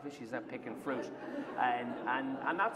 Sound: laughter

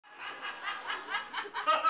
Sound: laughter

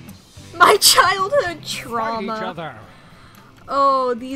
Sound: through laughter

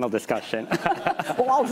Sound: laughter

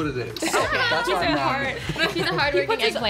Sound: laughs

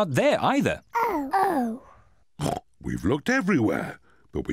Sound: oinks

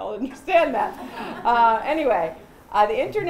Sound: laughter

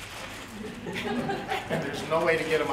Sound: laughter

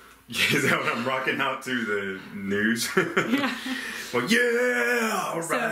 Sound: laughing

